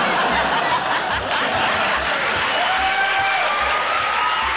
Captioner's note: laughter; cheering, applause